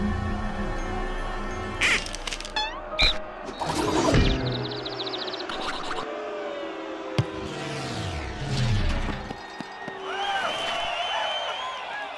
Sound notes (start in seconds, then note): 4.0 birds twittering; 6.0 crowd booing